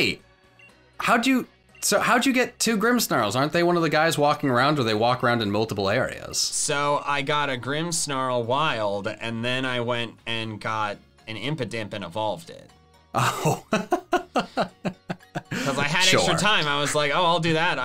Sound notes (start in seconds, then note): 13.1 laughing